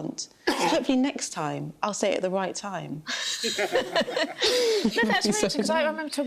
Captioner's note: laughter